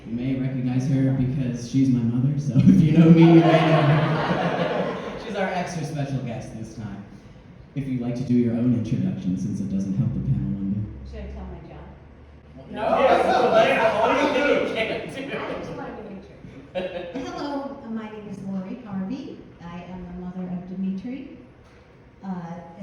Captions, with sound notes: You may recognize her because she's my mother, so, if you know me you may know her! She's our extra-special guest this time! If you'd like to do your own introduction, since it doesn't help the panel one bit -- (general uproar, lol) Hello, my name is Lori Harvey I am the mother of Dmitri